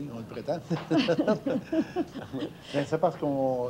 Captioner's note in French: rires